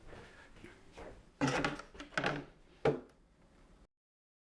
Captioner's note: silence